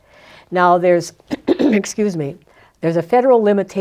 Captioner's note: clears throat